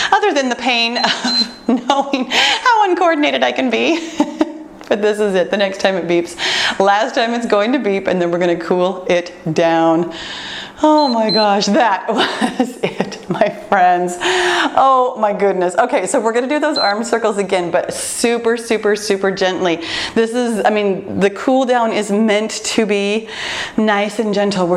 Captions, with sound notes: Other than the pain, [timer beeps] knowing how uncoordinated I can be. [laughs] This is it, , the next time it beeps, last time it’s going to beep and then we’re going to cool it down. [timer beeps] Oh my gosh, that’s it, my friends. Oh my goodness, we’re going to do those [timer beeps] arms circles again, but super, super, super gently. The cool down is meant to be nice and gentle.